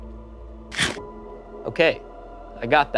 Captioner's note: werewolf chomps